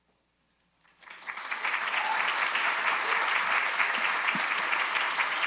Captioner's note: audience applauding